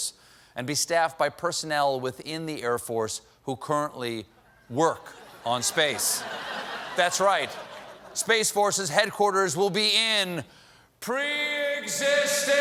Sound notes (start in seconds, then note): 5.1 laughter